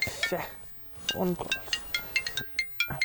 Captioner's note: sighs